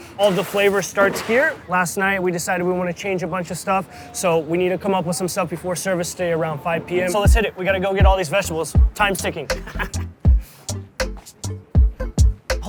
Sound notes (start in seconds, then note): 9.0 laughs; 10.5 mellow electronic music